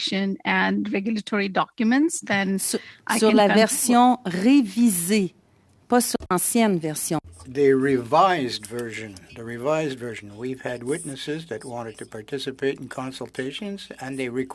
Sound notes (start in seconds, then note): 8.9 speaking French